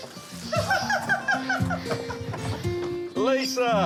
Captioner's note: laughs